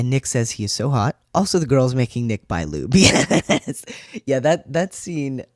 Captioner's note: laugh